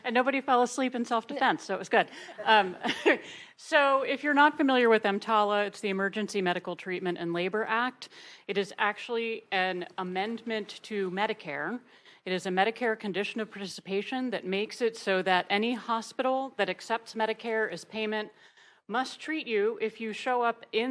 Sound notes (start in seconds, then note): 2.1 attendees laughing; 2.1 laughs